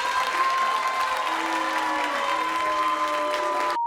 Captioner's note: crowd boos